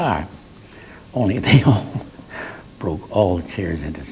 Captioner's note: laughs